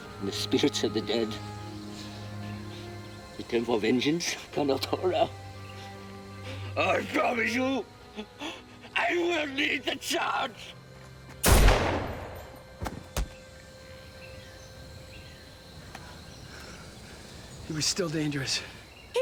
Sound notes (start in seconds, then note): 4.6 speaks in foreign language; 11.4 gun fires